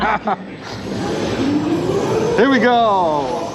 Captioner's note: laughter